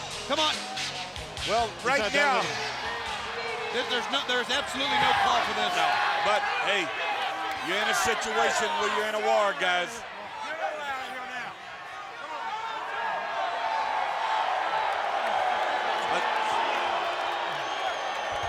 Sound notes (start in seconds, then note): 13.2 spectators shout; 15.6 spectators boo